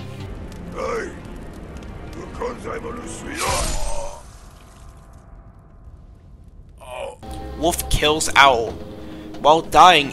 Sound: grunts in pain

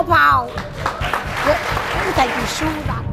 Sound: audience applauding

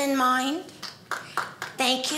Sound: audience applauding

